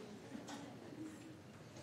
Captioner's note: background chatter